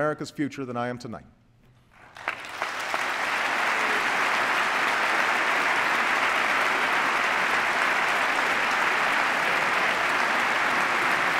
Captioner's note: applause